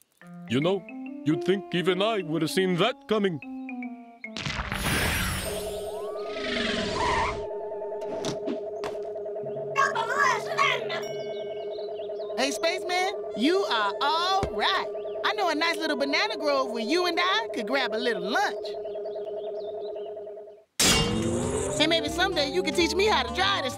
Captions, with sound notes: YOU KNOW, YOU'D THINK EVEN I WOULD HAVE SEEN THAT COMING. (yells) HEY, SPACEMAN, YOU ARE ALL RIGHT. I KNOW A NICE LITTLE BANANA GROVE WHERE YOU AND I COULD GRAB A LITTLE LUNCH. AND MAYBE SOMEDAY YOU COULD TEACH ME HOW TO DRIVE THIS THING.